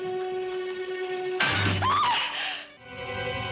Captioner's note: screams